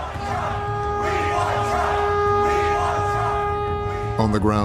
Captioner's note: chanting